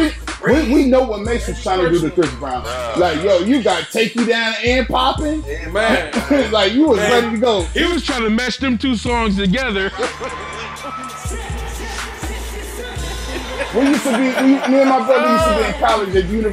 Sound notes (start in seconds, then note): 12.4 singing; 13.6 laughs